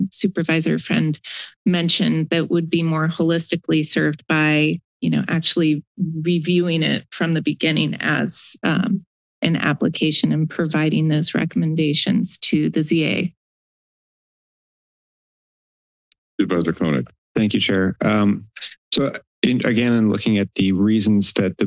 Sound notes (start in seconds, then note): 13.4 silence